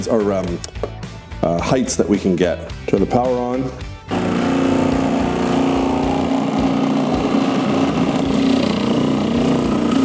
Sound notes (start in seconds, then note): 4.1 machine whirring